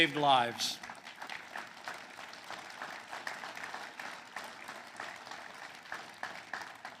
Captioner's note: applause